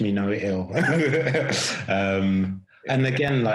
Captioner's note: laughing